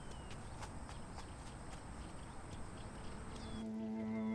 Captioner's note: footsteps tapping; somber music